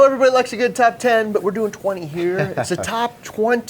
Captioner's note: chuckles